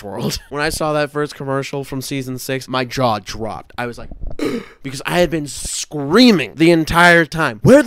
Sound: gasp

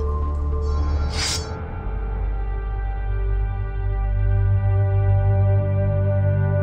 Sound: soft ethereal music; sword unsheathes

